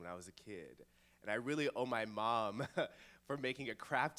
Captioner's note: laughs